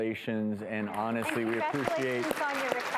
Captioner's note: audience applauding